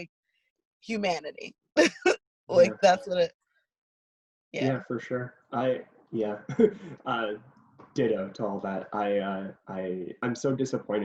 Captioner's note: laughs